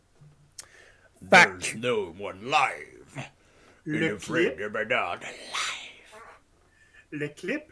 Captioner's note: snake tongue muttering